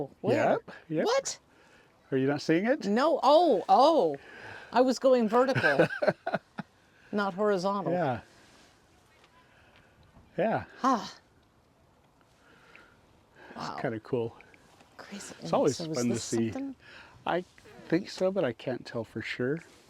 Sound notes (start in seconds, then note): 5.5 laughter